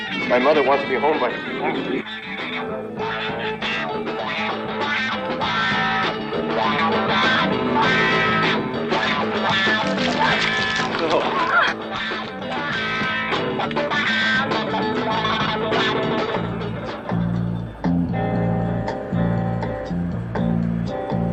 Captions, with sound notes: My mother wants me home by, mm. No. (woman laughing) (jazz rock music)